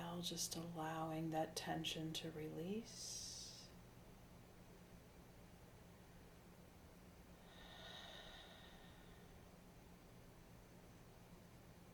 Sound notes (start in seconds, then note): 7.4 exhaling deeply